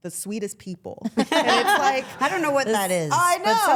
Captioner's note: all laughing